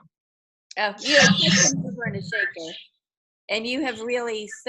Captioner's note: voice is garbled